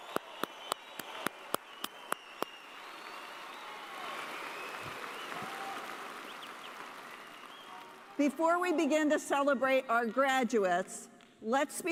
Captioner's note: cheers and applause